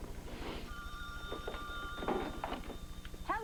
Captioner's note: rings